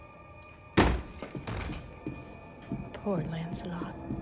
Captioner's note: door thuds